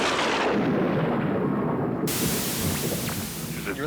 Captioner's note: thunder crashing